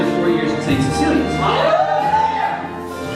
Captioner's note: students cheering